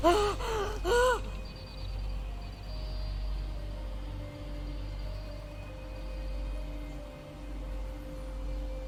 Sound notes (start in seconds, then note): 0.0 heavily breathing